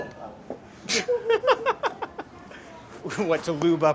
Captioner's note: laughing